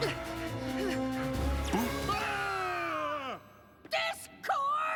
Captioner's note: both grunting; both scream